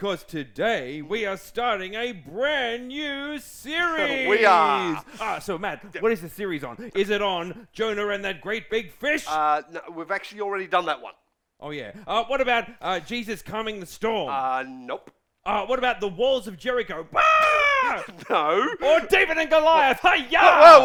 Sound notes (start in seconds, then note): 17.1 Percival screams